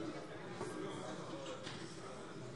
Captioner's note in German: none